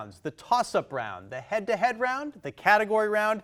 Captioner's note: none